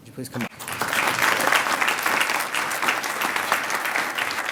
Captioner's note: applause